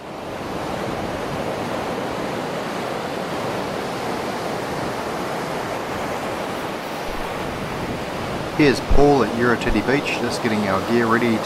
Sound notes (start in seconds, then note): 1.8 waves crashing